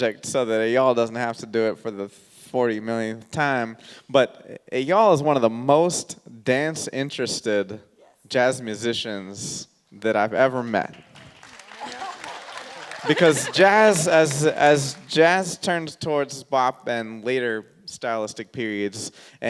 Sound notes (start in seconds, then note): 10.9 audience clapping; 11.4 laughs